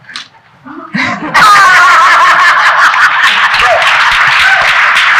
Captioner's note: people laughing and applauding